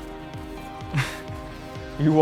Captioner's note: laughs